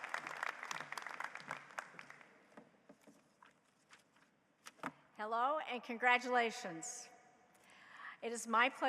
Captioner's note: applause